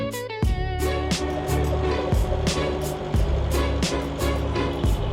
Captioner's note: boat engine whirring